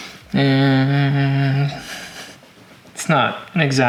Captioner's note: humming